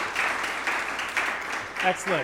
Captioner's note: applause